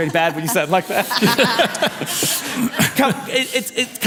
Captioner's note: laughter